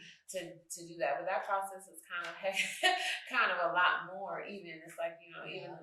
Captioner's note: chuckles